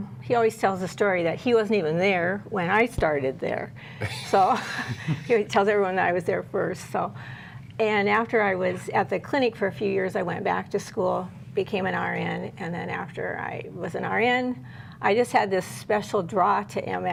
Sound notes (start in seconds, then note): 4.1 laughter